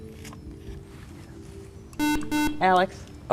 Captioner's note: buzzer